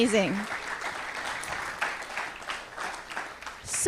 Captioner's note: applause